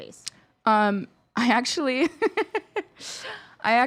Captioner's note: laughing